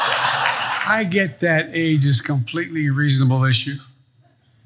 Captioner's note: laugh